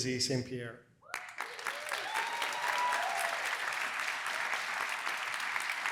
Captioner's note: applause